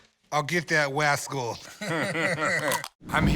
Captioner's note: both laugh